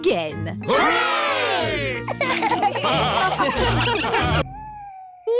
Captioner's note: laughter